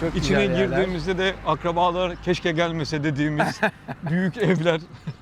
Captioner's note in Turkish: kahkaha